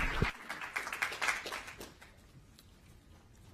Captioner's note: applause